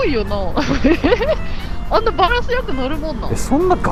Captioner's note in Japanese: 笑い